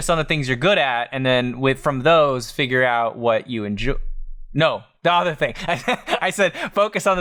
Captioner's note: laughs